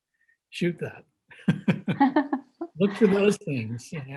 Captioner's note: laughs